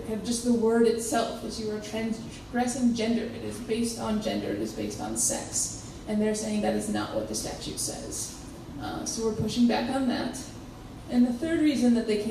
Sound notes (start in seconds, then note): none